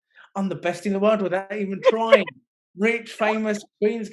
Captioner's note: laughing